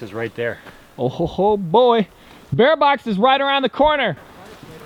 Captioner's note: shouts